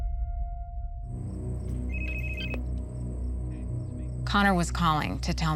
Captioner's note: phone ringing